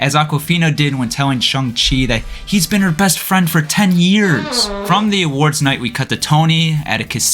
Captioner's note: fart